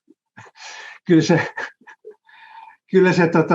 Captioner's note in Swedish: Skratt